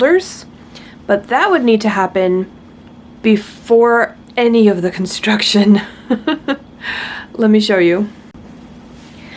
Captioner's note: laughs